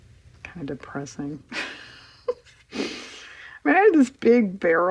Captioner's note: laughs